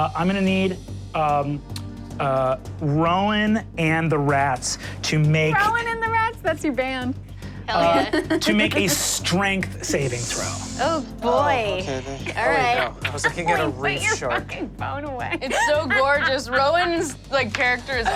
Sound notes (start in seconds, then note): 15.3 laughs